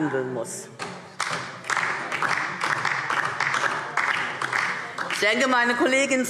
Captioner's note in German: Beifall DIE LINKE